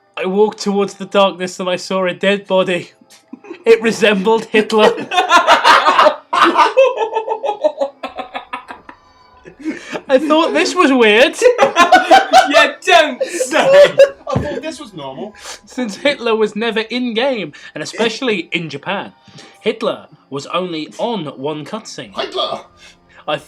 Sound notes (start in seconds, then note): 4.8 laughter; 11.4 laughter